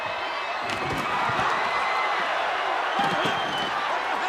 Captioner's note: audience cheering